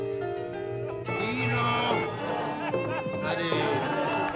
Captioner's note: party chatter